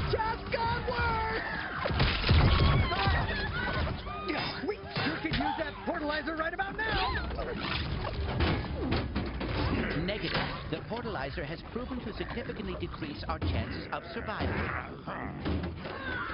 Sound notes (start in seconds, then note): 1.9 explosions; 2.4 screaming; 7.8 heavy clanking; 13.4 grunting